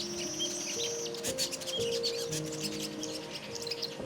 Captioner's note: birds chirping